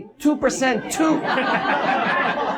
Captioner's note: audience laughs